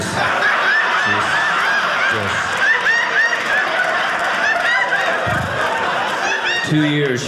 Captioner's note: audience laughing